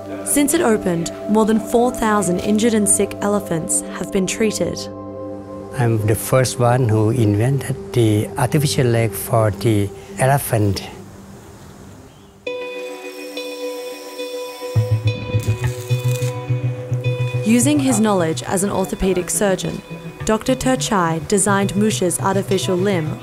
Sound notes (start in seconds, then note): 12.6 grinding; 15.3 zapping; 17.5 voiceover